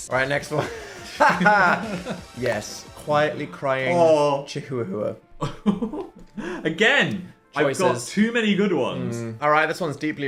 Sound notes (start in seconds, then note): 0.5 both laughing; 5.4 laughs